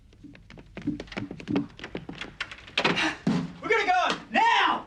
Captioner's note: footsteps approaching